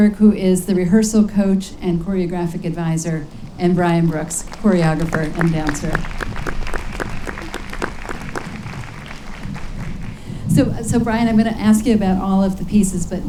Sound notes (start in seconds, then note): 6.0 audience claps